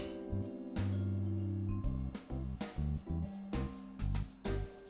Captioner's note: the sound of preheated oven